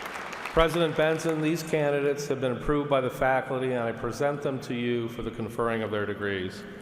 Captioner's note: applause